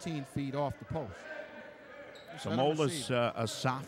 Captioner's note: yelling